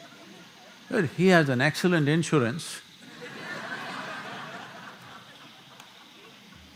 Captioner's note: few laugh; laughter